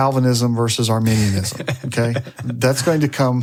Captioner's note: laughs